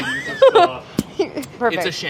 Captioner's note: laughing